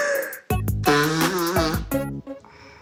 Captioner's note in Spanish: Ruido al soplarse la nariz